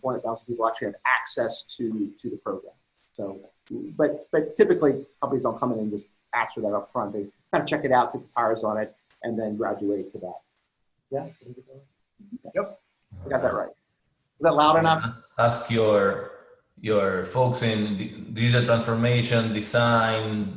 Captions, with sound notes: or 400,000 people actually have access to the program. But, typically companies don't just come and ask for that up front, they kind of check it out and put the tires on it, and then graduate to that. (chattering) Got that right. Is that loud enough? Ask your folks in visual transformation, design,